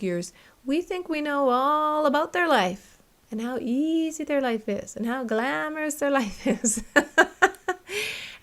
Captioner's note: laughter